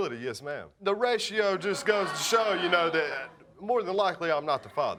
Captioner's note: audience laughing